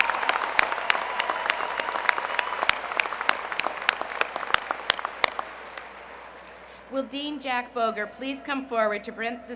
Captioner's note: applause